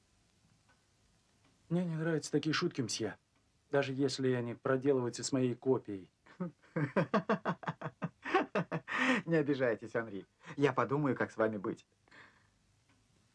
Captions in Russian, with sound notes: - Мне не нравятся такие шутки, месье, даже если они проделываются с моей копией! [смеется] - Не обижайтесь, Анри! Я подумаю, как с вами быть!